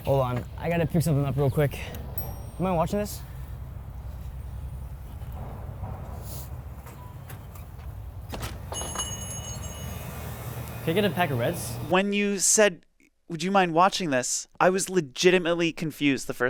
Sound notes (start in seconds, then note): 8.6 bell ringing